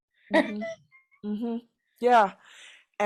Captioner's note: laughing